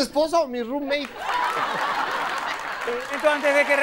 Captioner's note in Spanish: Risas